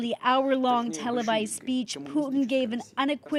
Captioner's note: speaking Foreign Language